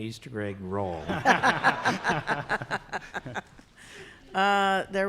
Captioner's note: laughter